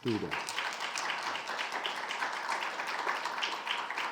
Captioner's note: audience clapping